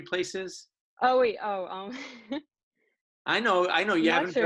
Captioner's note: chuckling